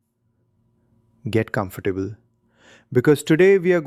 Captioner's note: pause; excited